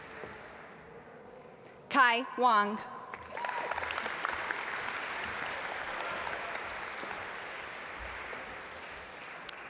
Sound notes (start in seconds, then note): 3.1 audience applaud